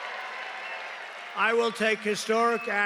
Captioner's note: cheering